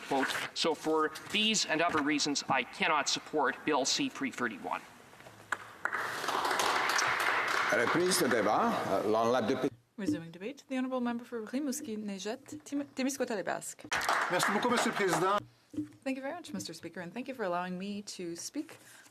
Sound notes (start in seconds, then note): 11.4 some Applause; 16.3 speaking French